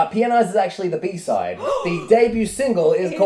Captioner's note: gasp